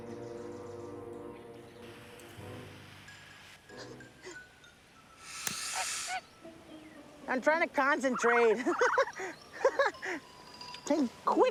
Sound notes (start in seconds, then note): 2.8 torch hissing; 8.5 laughing